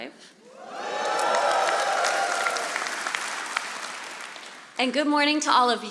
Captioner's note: audience applauding